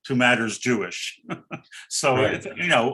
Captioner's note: giggles